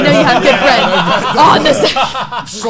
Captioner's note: laughs